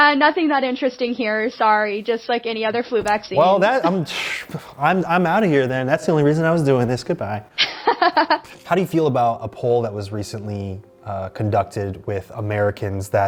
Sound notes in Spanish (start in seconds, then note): 7.6 risas